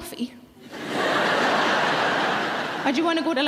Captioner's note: audience laughing